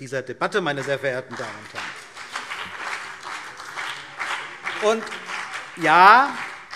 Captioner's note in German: Beifall CDU und BÜNDNIS 90/DIE GRÜNEN